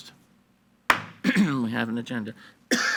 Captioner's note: gavel bangs